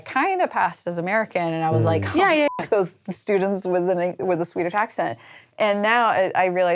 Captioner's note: beep